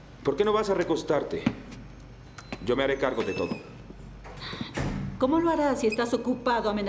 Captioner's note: none